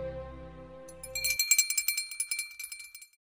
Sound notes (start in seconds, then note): 0.9 bell ringing